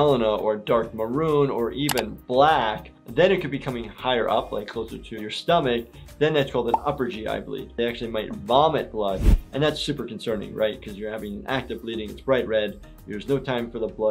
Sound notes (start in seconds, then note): none